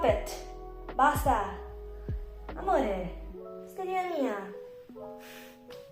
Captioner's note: in Italian